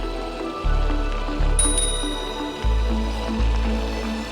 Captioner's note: bicycle bell dings